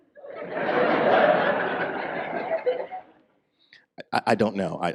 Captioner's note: audience laughs